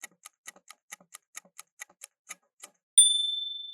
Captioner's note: timer ticking